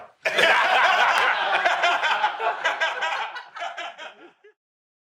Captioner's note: raucous laughter